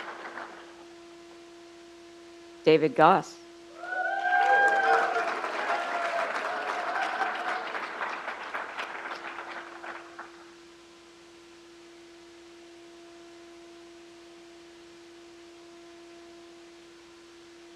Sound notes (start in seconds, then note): 3.8 crowd applauds